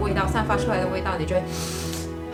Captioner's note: suck the air